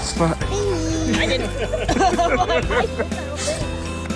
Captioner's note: laughts